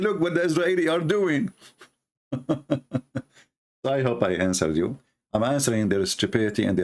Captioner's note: Ketawa